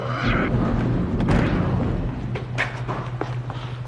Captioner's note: door opens